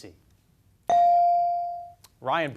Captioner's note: beep